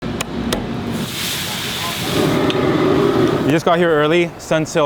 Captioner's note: knife thuds; food sizzling